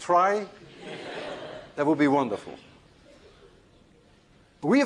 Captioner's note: laughter